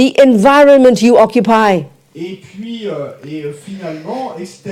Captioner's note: audience member speaks in French